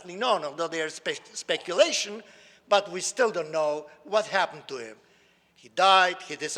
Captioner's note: none